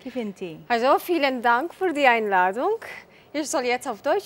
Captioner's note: speaks German